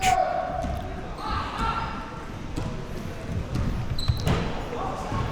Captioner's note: spectators chattering